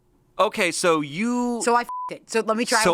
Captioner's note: beep